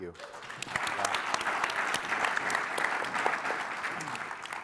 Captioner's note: audience applauding